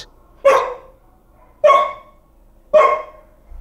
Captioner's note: dog barks